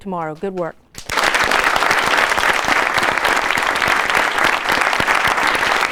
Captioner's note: applause